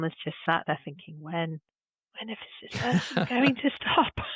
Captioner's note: laughing